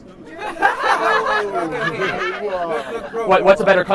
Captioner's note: laughing